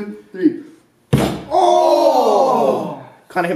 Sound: bang

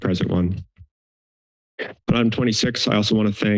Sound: silence

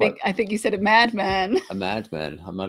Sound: laughs

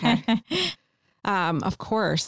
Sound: laughter

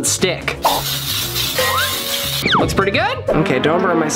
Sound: spraying pam

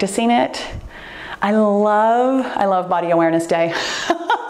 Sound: laughs

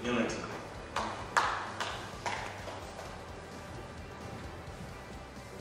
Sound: audience applauds

